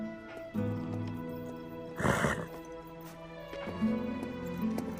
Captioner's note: snorts